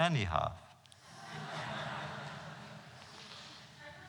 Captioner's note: laughter